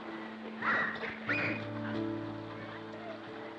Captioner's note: children shrieking happily